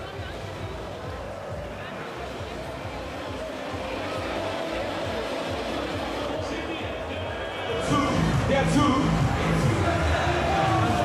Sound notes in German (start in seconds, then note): 6.2 aus Lautsprecher